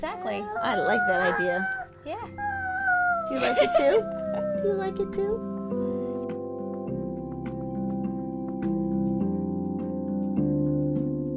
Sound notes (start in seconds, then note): 2.4 laugh